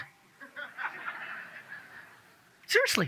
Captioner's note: audience laughs